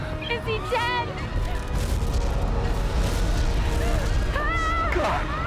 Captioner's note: people screaming